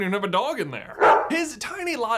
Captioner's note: bark!